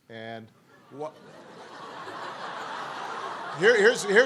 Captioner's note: laughter